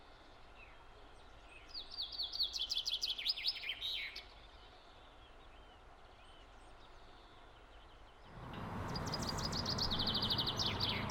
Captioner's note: birds chirping